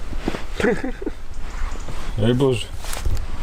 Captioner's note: laughing